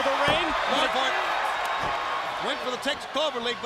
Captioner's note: crowd cheering